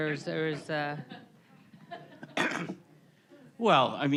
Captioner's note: all chuckling